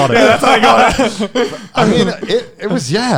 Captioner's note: all laughing